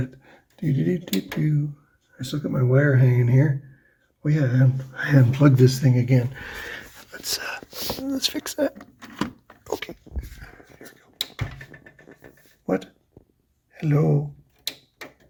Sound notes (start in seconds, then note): 0.6 happy noises